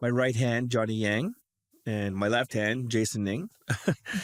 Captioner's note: chuckles